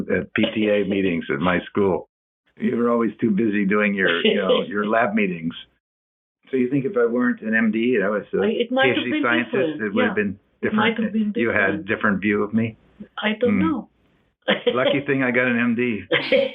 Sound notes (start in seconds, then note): 14.4 laughs